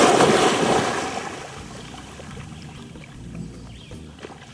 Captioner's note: water splashing